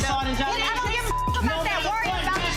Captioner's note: beep